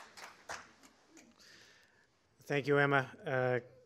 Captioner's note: applause